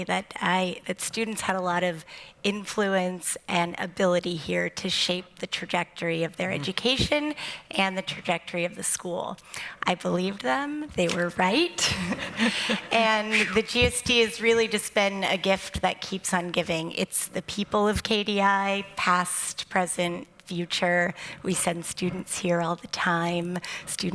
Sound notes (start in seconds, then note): 11.8 laughter